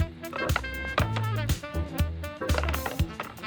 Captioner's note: wood knocking